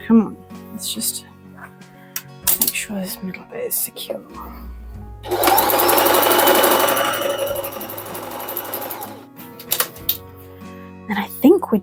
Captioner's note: sewing machine noises